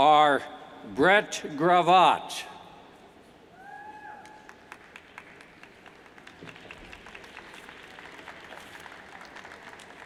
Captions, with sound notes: are Brett Gravatt, (cheers and applauds)